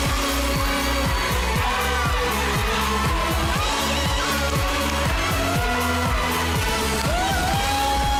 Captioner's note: audience cheering